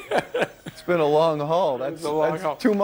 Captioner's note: laughter